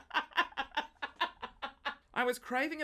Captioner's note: laughs